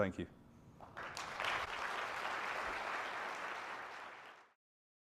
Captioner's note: audience applauding